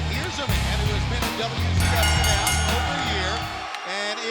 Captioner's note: bell rings